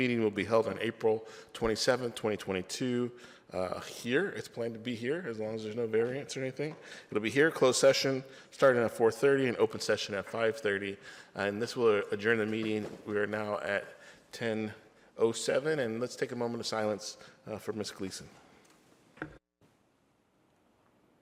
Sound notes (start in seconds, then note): none